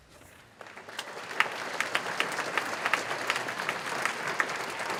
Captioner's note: audience applauding